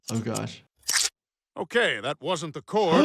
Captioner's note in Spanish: tijeras cortando